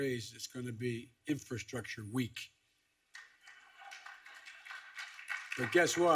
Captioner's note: applause